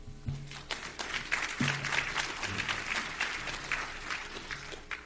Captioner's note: audience applause